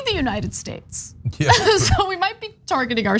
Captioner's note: laugh